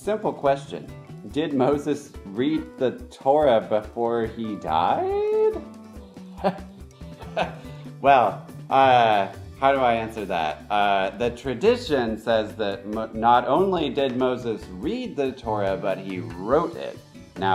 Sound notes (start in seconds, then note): 6.1 laughs